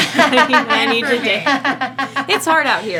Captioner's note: laughing